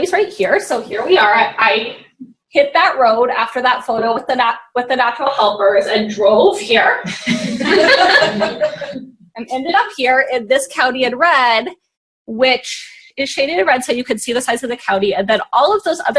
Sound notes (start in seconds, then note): 7.1 laughing